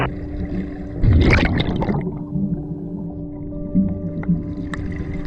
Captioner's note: water gurgling